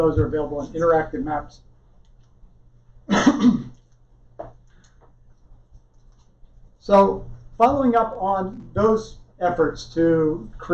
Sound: coughing

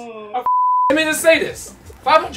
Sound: beep

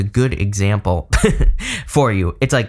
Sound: chuckles

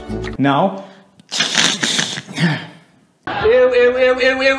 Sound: blows his nose

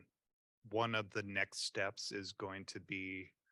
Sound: people chattering

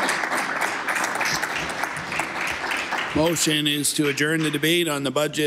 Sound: applause

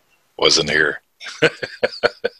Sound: laughs

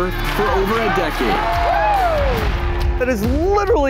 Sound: cheering

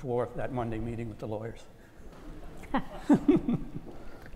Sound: laugh

